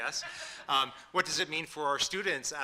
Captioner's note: audience laughing